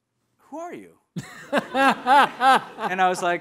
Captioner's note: audience laughing